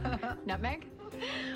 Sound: laughs

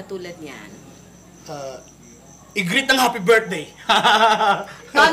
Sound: laughs

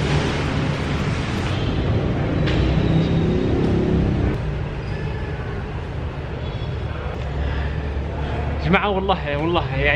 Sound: engine sound

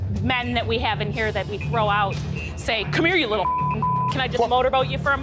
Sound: beep

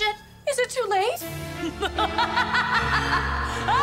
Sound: evil laugh

